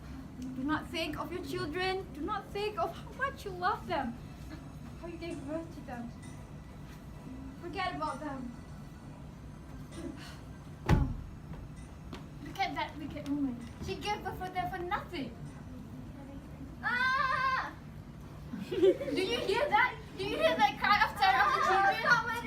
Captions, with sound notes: Do not think of your children. Do not think of what you love them How you gave birth to them Forget about them look at that wicked woman, she gave bitrh for them for nothing (Maryam's daughter shouting) Do you hear that? Do you hear that cry of terror of the children?